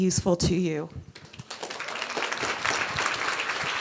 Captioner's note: applause